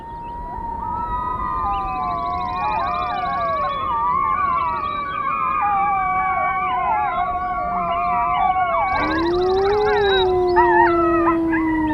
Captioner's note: wolf pups howl with alpha female